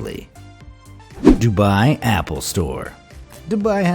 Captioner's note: graphic whooshing